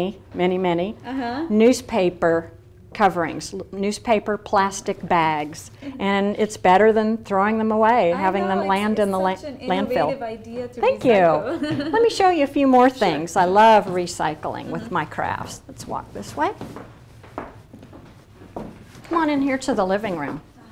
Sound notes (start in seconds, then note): 11.4 laughs